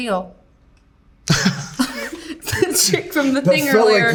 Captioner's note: both laughing